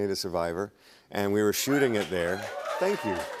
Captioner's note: cheers and applause